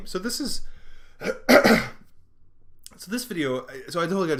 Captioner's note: coughing